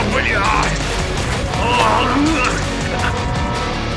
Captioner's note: groan